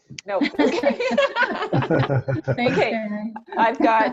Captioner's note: laughing